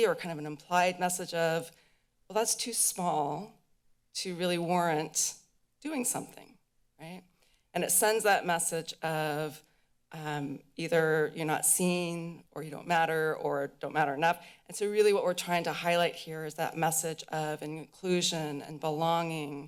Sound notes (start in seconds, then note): none